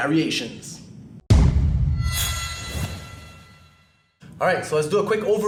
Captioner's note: pounding; harmonic sting